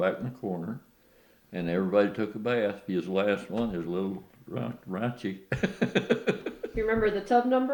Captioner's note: laughs